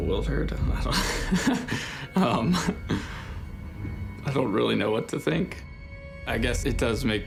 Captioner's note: laughs